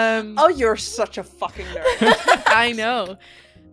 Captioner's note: laughter